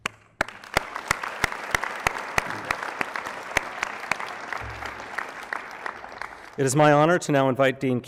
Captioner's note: applause